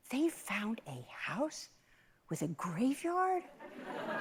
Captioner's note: laughter